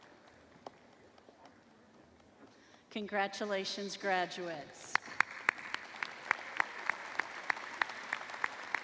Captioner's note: applause